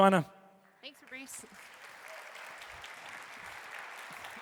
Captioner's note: crowd applauds